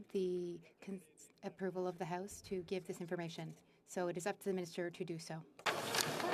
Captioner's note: speaking French